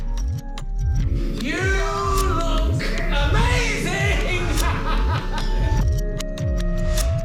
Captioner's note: laughs